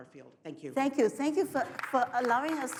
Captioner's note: audience applauds